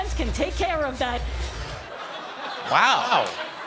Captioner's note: laughter